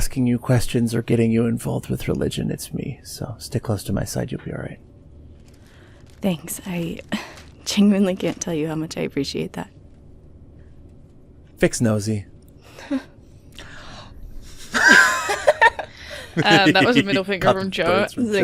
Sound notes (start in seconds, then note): 16.0 gasps; 16.1 laughter